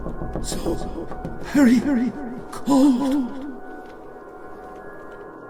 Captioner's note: tapping